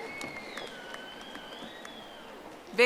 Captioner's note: audience applauding